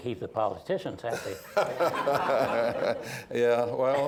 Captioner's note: laughter